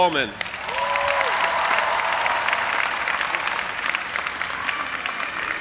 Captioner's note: audience applauding and cheering